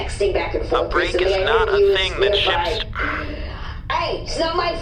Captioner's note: sigh